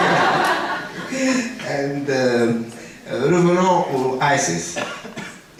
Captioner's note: laughter; speaking french